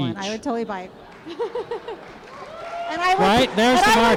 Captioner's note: applause